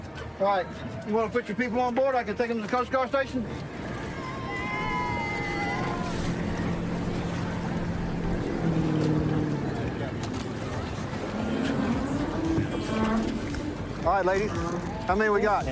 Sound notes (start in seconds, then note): 3.9 cheers